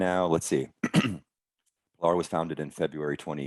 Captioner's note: clearing his throat